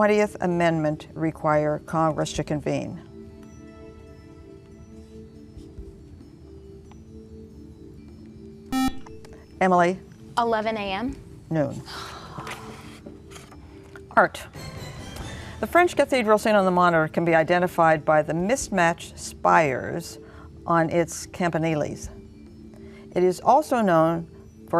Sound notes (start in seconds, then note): 8.7 buzzer